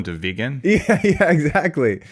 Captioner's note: laughs